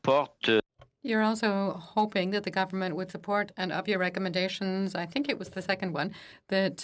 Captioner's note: speaking French